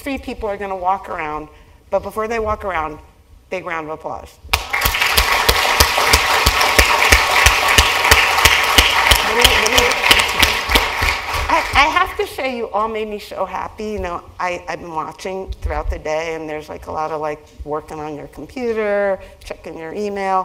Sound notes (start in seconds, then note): 4.5 applause